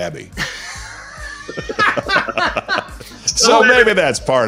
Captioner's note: laughing